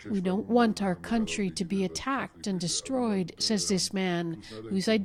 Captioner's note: speaking alternate language